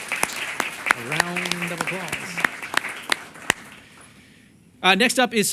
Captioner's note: applause